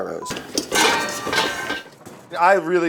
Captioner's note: pans clink